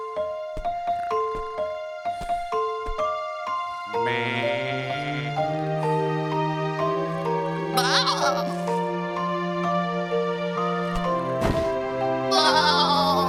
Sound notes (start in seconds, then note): 3.5 soft bleating; 7.7 bleating; 12.3 bleating